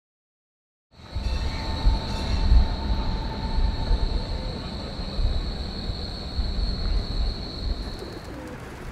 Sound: traffic; wings flapping, pigeons cooing

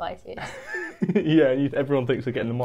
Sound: chuckles

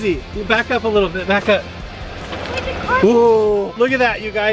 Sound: rock music; car engine revs

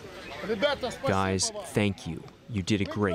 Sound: through translator

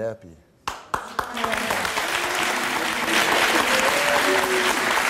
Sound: audience applauds

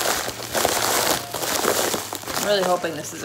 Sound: crackling sound

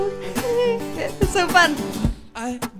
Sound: laughing

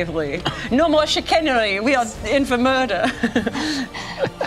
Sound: laughs

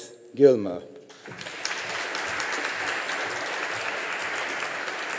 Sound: audience applauding

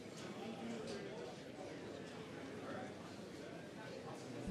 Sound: crowd murmuring

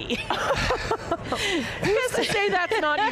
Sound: panelists laughing

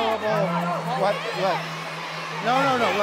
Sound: yelling

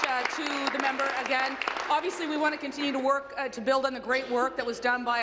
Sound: applause

